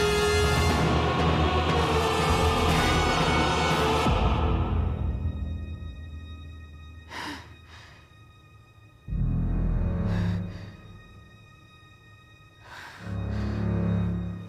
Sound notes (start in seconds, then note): 7.3 Rachel breathes